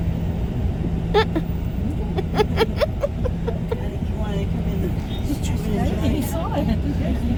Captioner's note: laughter